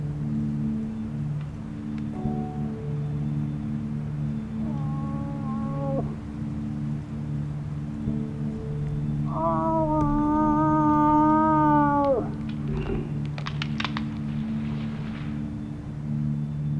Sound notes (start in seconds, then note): 4.6 moose call grunting; 13.6 branches crackling